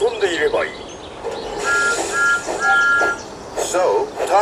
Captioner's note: thomas whistles